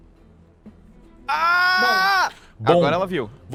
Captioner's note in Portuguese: Ah!!